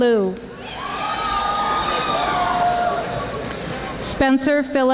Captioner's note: audience applauding